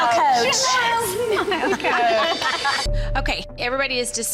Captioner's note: coaches laughing